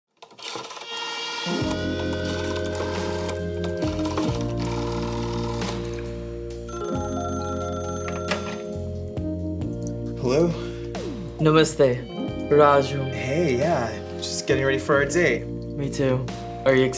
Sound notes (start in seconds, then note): 0.5 gentle music; 1.4 phone whirring; 6.6 phone ringing; 11.8 speaking Hindi